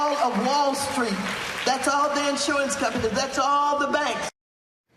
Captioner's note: cheers and applause